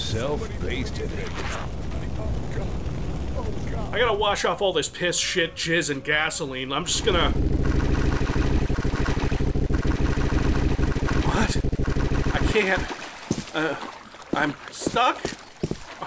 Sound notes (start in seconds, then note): 6.9 glitch stuck sound